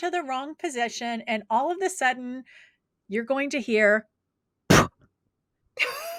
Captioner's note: pffff